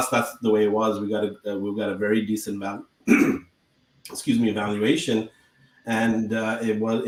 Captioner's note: clears throat